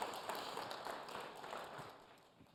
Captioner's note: applause